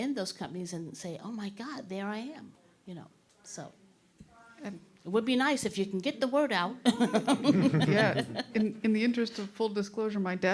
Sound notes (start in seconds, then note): 6.8 all chuckling